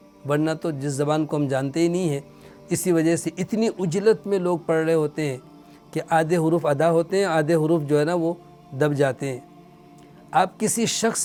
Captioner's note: Arabic